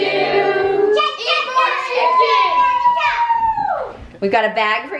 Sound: cheering

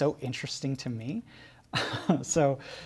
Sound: giggles

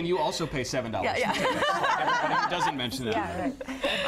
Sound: laughter

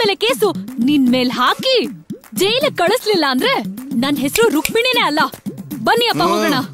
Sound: snaps finger

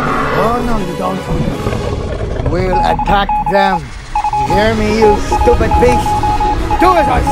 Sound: beeping sounds

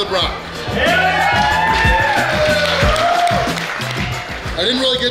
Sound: cheering & Clapping

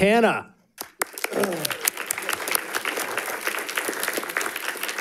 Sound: audience applauding

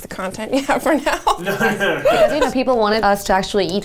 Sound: laughing

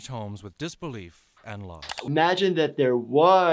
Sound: computer mouse clicks

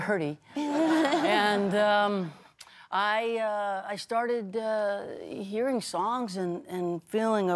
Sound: laughter

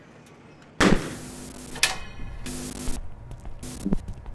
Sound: door slamming, static

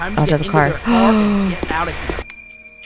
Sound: gasps

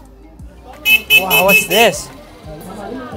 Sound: horn honking

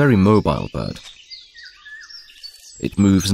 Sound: sounds of nature

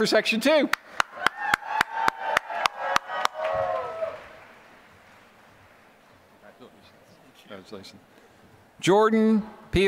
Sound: applause

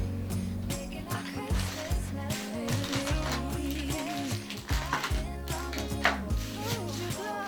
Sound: SFX: Cleaning up

